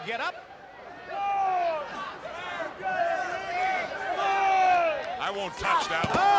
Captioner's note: crowd chatter